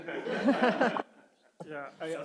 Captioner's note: everyone laughing